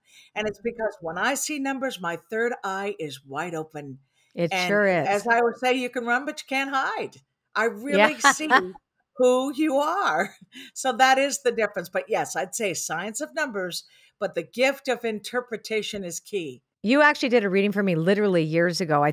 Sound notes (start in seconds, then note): 7.9 laughs